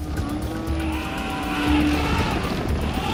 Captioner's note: elephants trumpeting